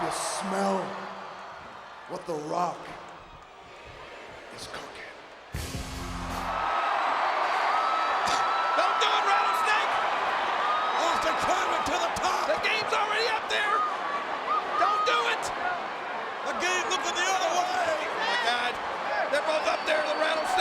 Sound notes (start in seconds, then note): 5.5 dramatic music; 6.5 audience cheering